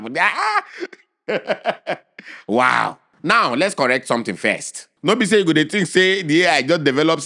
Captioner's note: laughing